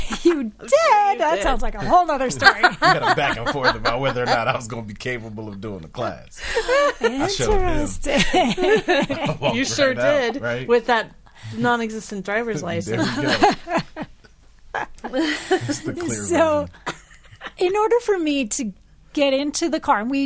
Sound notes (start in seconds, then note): 2.2 laughing; 8.1 group laughing; 12.6 group laughing